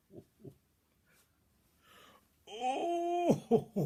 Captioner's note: sound of chuckling